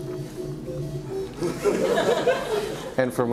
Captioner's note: background Noise and Laughter